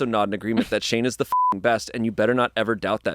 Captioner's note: beep